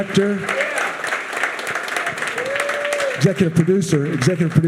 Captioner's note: audience cheering and applauding